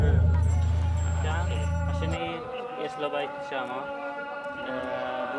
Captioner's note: Hebrew spoken audio